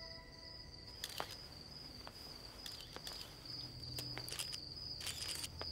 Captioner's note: Footsteps